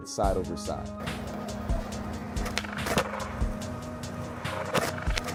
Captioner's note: skateboard rumbling